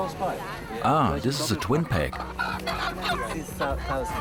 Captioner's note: in German; rooster squawks